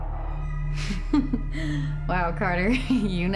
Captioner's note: chuckles